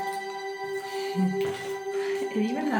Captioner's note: chuckles